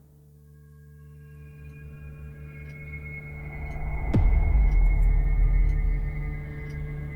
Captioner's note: brooding music; clock ticking